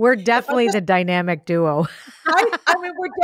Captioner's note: laughs